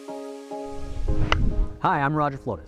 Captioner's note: ambient music; golf club thwacks